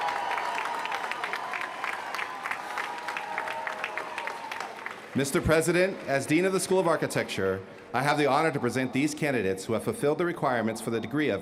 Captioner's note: cheers & applause